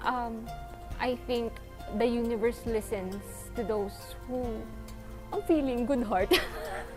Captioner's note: giggles "feeling good heart?"